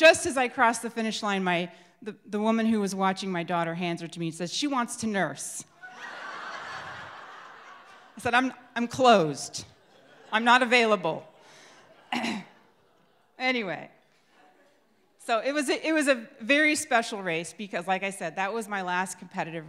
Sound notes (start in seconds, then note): 9.7 crowd laughs